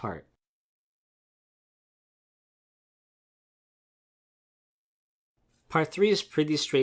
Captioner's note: pause